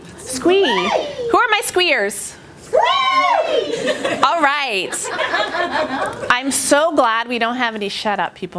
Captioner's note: laughter